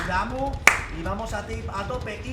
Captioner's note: claps in Spanish